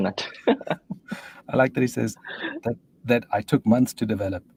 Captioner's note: laughs